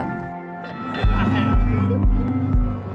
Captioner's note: bell clangs